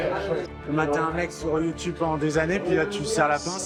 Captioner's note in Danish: på fransk